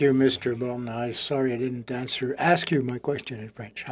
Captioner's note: speaking French